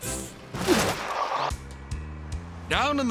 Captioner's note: logo whooshes